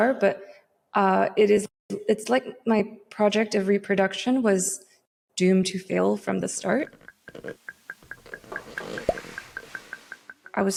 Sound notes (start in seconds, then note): 6.8 cell membrane squeaking; 9.1 cell membrane pops